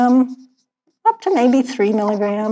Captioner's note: none